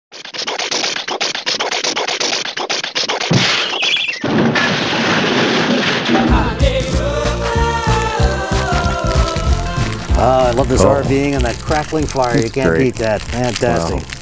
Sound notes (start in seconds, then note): 0.6 car sputtering noises; 7.5 fire crackling noises